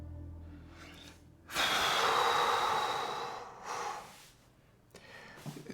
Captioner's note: Matt exhales sharply